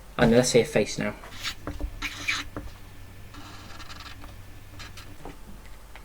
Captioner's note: pen squeaking